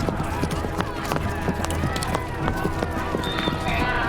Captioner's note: cheering